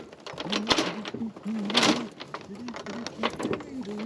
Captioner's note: humming